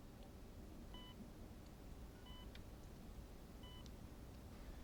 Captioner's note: medical machinery beeping